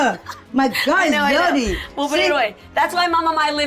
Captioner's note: laughing